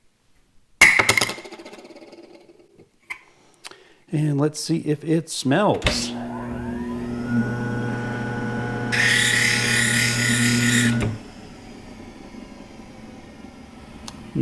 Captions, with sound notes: And let's see if it smells. (machine grinding)